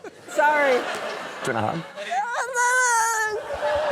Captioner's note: wails